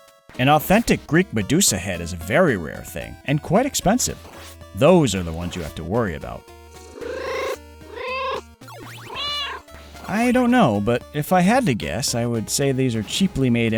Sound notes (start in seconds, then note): 7.8 meow, meow